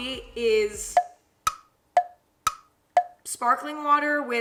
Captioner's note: clock ticking